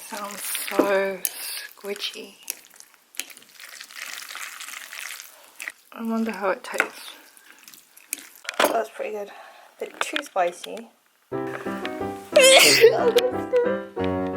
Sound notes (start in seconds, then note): 11.4 comical music; 12.4 sneezing